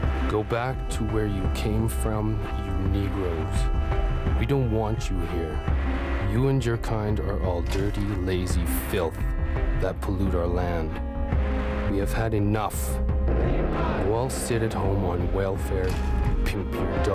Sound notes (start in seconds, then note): 1.3 reading letter